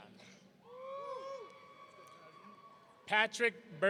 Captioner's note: audience cheering